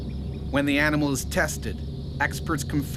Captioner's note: voiceover